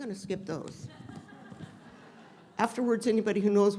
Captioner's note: audience laughing